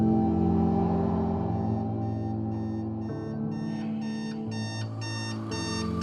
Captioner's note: alarm clock ringing